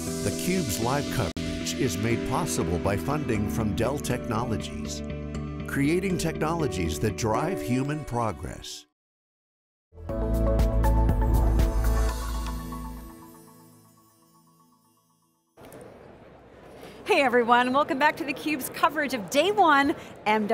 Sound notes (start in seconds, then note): 0.0 gentle music; 10.0 upbeat music; 11.3 logo whooshing